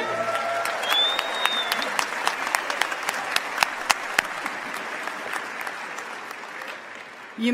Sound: applause

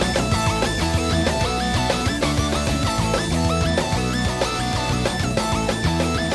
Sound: none

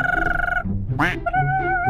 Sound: brrrr

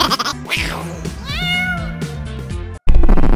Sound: buddy cut boy giggling; cosmic meowing

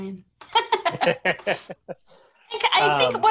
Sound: laughing

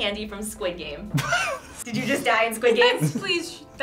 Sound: laughs

